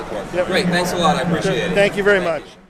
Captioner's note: voiceover